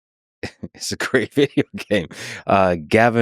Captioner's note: laughs